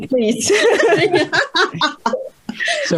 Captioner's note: risas